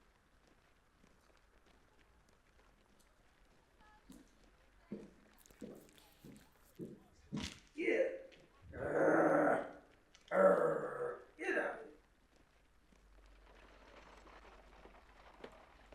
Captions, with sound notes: - Get! (growls) Get out of it.